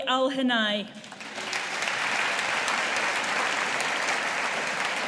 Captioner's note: audience applauding